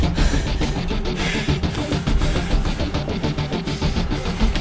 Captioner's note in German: Sie keuchen beide